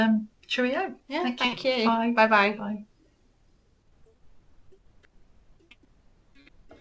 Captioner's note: silence